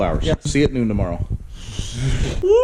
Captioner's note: both Laughing